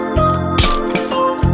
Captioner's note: thump